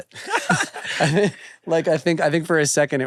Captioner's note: both laugh